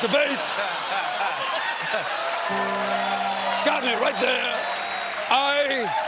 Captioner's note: cheers and applause